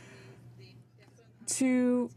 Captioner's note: speaking French